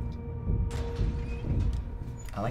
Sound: doors shutting

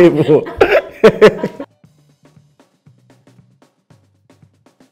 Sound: he laughs; upbeat music

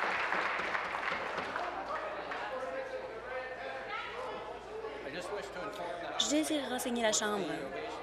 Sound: applause; cheers

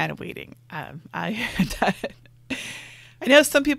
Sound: laughs

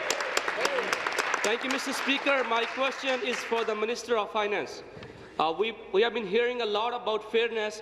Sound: applause

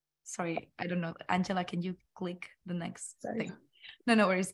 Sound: murmurs

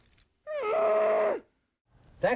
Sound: painful grunt

